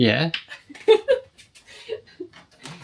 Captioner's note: laughter